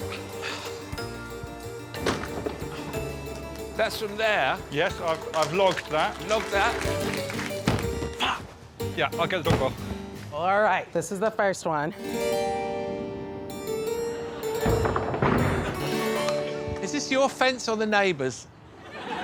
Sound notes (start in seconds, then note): 0.0 audience tittering; 0.0 iron thudding; 0.3 harpsichord music; 0.4 Alan sighing; 1.9 iron thudding; 4.7 audience applauding; 7.6 iron thudding; 11.9 harpsichord music; 12.4 audience tittering; 14.6 iron thudding in slow motion